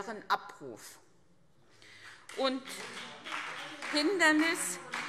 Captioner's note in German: Beifall CDU - Zurufe Freie Demokraten und DIE LINKE